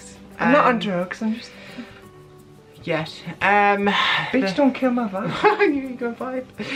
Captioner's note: laugh